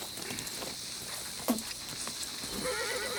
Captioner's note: gang member spits; horse neighs